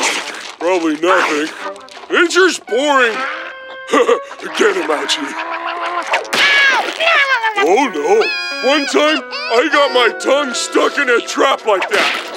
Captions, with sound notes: Probably nothing. Nature's boring! [chuckling] Get him, Ouchie. [growling] Oh, no! One time I got my tongue stuck in a trap like that.